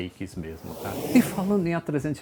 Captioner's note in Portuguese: som de avião ao fundo